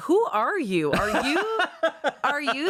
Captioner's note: laughs